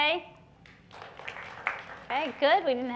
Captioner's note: clapping